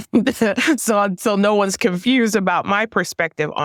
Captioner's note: laugh